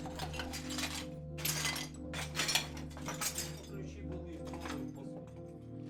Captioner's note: picking through broken ceramic